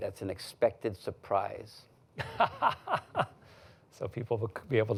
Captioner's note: laughs